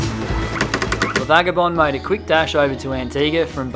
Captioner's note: voiceover